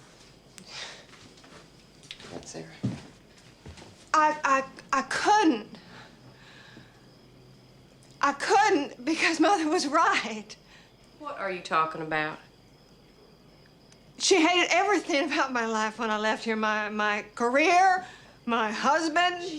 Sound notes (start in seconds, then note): none